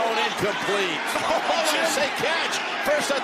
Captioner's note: Tony laughs in befuddlement